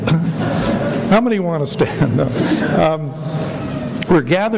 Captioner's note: laughs